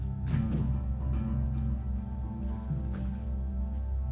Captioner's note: footsteps thumping